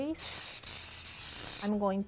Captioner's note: spraying grease